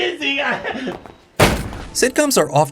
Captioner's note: bang